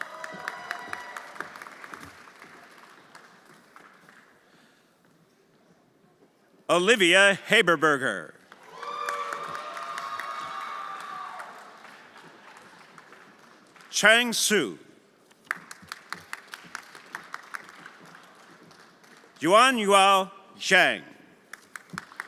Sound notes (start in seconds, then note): 0.0 everyone applauding and cheering; 8.5 everyone applauding and cheering; 15.4 everyone applauding; 21.5 everyone applauding